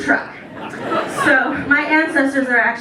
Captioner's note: laughter